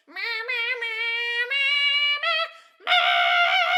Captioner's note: hum hum